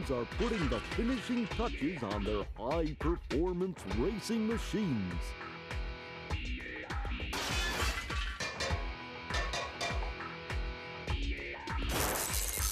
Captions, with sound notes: ARE PUTTING THE FINISHING TOUCHES ON THEIR HIGH-PERFORMANCE RACING MACHINES. [metallic clanging]